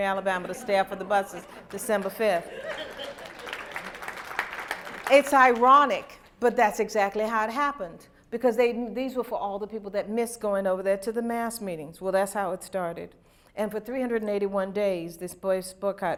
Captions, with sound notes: to stay off of the buses December 5th. (applause) It's ironic, but that's exactly how it happened. Because these were for all the people who missed going over there to the mass meetings. Well that's how it started. And for 381 days, this